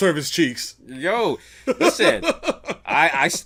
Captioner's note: laughs